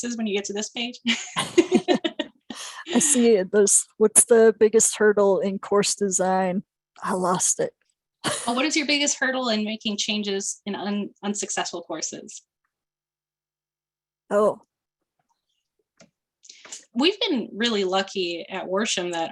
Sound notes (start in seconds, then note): 1.0 laughter